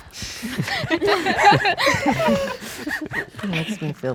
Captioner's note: everyone laughing